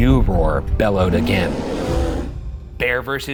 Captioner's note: creature roars